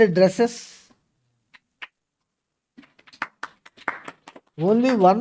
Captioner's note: claps